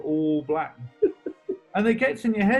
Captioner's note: giggling